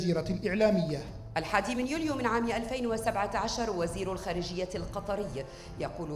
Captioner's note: female speaking in foreign language